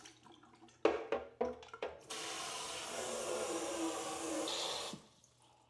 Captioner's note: water running